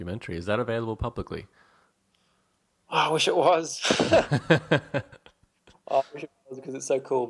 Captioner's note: laughs